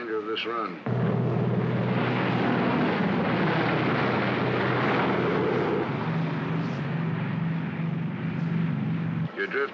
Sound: aircraft rumbles

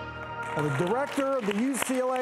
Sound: victorious music; audience clapping

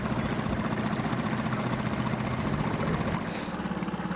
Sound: boat engine revving

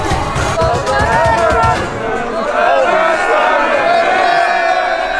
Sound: crowd cheering

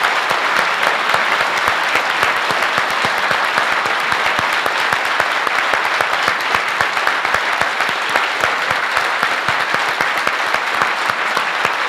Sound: audience applauds

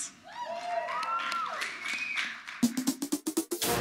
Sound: audience cheers; audience applauds; upbeat music

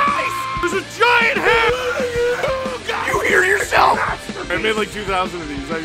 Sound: Harry potter screaming; screaming

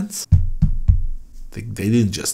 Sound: knocking

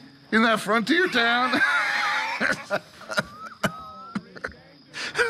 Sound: both laugh

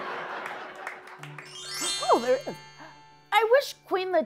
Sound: laughter; chimes

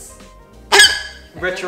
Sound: squeaks

